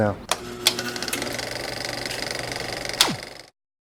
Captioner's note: reel clicking